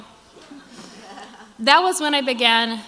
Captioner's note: crowd laughs